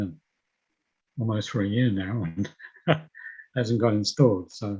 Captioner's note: laughing